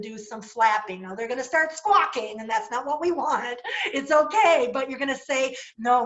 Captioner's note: laughter